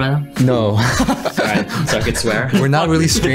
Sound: laughs

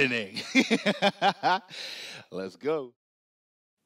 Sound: laughs

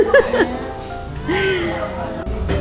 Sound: forced laughter from LOL

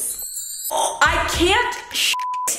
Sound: chiming

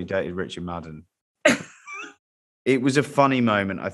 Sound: laughs

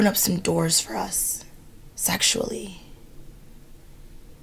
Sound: water running

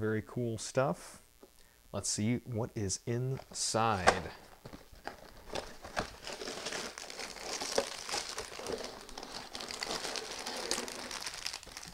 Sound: cardboard and plastic rustling

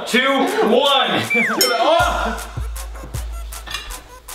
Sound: laughter

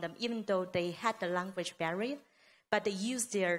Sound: none

